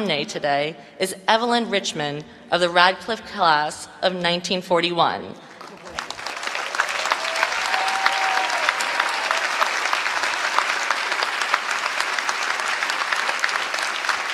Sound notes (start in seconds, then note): 6.7 applause